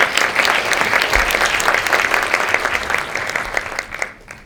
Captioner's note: audience applause